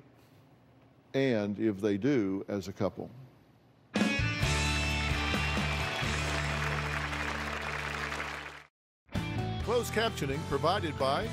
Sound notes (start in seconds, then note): 7.2 applause